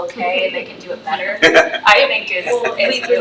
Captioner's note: trustees laughs